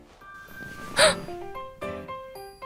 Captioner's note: gasp